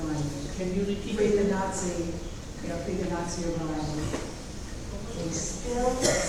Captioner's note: speaking off mic and muffled